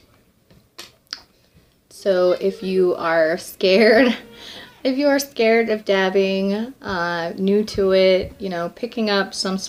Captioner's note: laughing